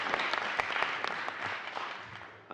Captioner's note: applause